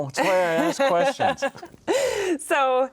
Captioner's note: guest laughing